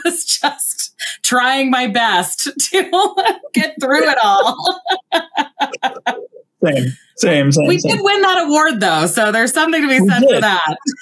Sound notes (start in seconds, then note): 3.1 both laugh